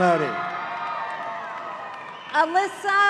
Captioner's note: audience cheering